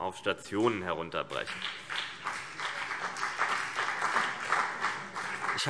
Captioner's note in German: Beifall CDU und BÜNDNIS 90/DIE GRÜNEN